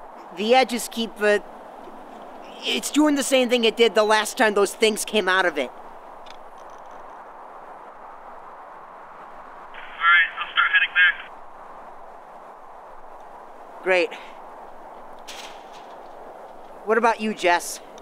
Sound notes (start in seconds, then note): 10.0 two-way radio